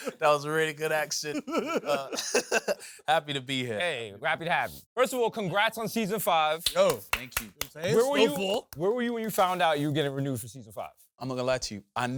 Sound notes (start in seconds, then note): 1.3 laughs; 6.6 claps